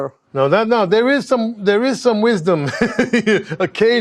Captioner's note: laughs